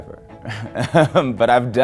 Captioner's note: laughs